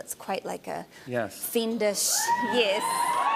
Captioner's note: scattered cheers